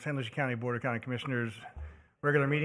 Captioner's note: gavel